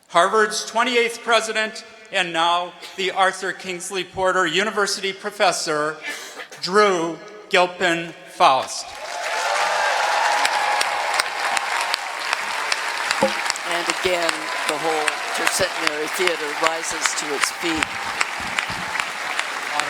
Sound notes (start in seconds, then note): 9.4 applause